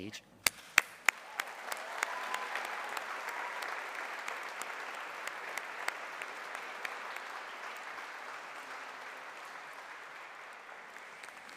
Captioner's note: applause